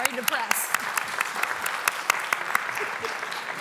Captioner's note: applause